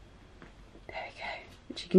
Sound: whispers

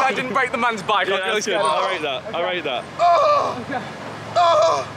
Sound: JJ groaning

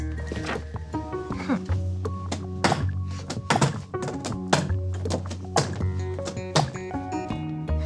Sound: cubbies clattering

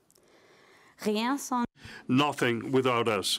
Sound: speaking in French

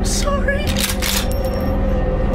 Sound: gun cocking

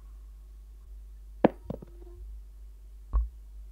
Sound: cup put down

